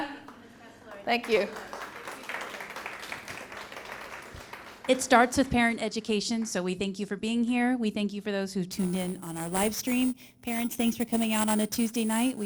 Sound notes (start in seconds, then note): 0.2 clapping; 0.8 parents clapping